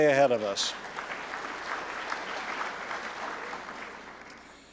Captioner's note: applause